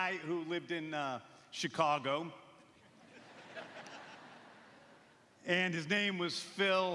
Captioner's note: laughter